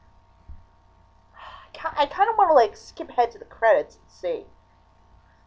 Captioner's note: sighs